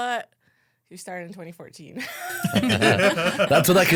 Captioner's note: laughs